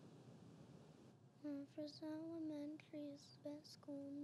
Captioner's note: speaking softly